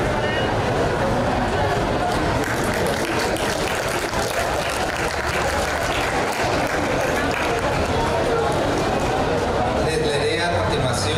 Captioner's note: aplause